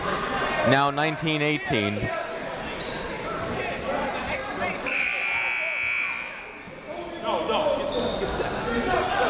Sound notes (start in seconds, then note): 4.9 buzzer